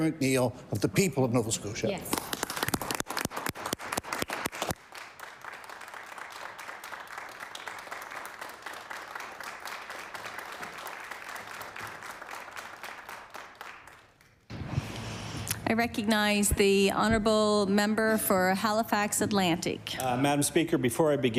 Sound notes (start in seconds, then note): 5.2 applause